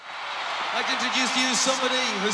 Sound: crowd cheering

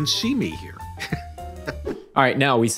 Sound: laughing

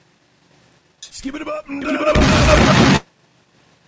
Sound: boom

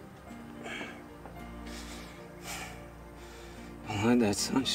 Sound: wheezing

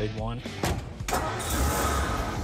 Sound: engine rumbles

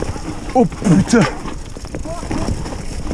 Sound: french cursing

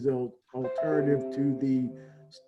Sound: chime

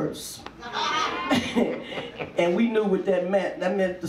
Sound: audience laughs

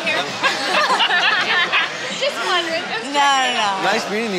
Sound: all laughing

